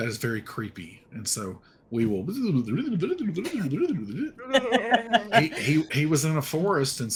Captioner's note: speaking gibberish in reverse